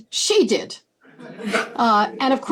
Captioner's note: laughter